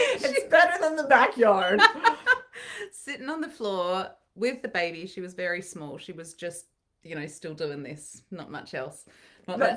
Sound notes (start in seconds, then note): 1.7 laughing